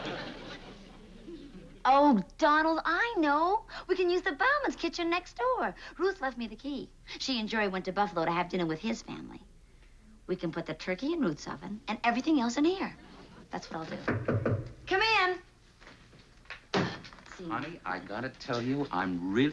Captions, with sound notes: Oh, Donald, I know. We can use the Bauman's kitchen next door. Ruth left me the key. She and Jerry went to Buffalo to have dinner with his family. We can put the turkey in Ruth's oven, and everything else in here. -That's what I'll do. -(knock on door) Come in! Let's see now... Honey, I gotta tell you,